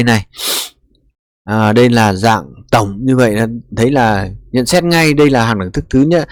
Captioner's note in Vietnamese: khịt mũi